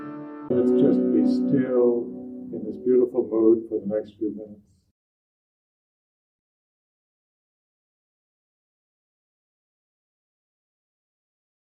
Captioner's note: silent pause